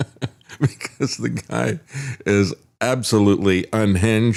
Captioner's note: laughs